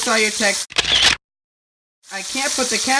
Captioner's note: photo sound